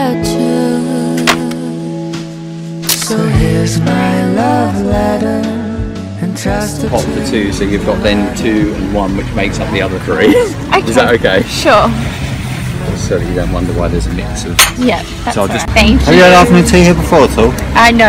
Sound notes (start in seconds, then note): 10.2 laughs